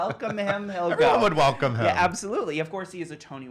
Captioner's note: laughs